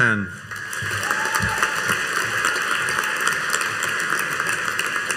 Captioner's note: audience applauding